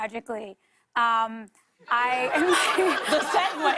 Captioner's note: laughter